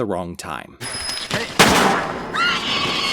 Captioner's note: screaming; gunshot